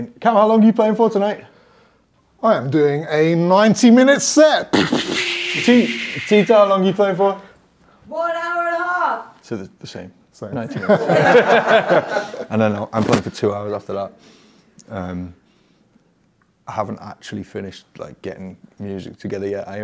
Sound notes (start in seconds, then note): 4.7 imitates rocket sounds; 10.7 laughs